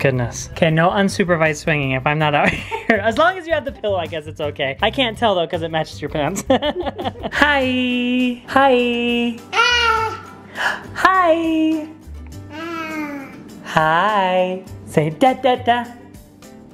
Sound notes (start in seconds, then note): 6.3 laughs